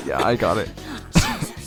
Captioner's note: cough